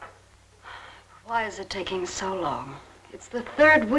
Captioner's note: sighs